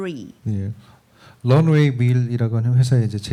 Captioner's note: speaking korean